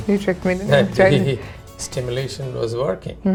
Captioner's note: laughs